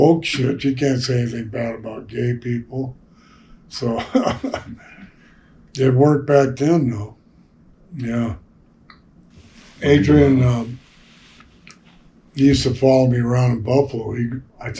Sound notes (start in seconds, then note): 3.8 laughs